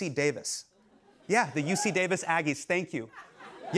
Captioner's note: audience member cheers